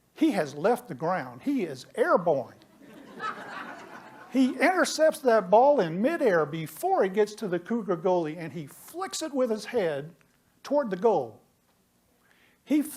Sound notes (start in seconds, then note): 2.7 laughter